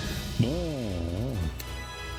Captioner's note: grumbling